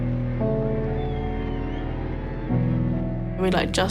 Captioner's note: faint cheering